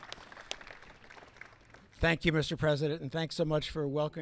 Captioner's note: applause